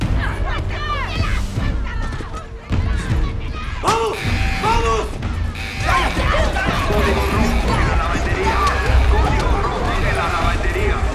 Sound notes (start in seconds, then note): 0.2 women grunting and shouting in spanish; 4.0 alarm blaring